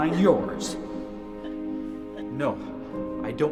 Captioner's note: crying